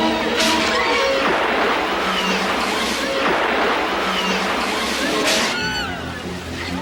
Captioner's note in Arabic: صرخة أصحاب القوارب